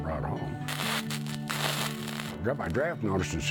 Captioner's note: sizzling sounds